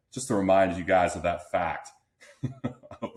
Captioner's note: laughs